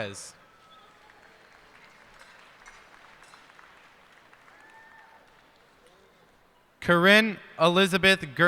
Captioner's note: cheers and applause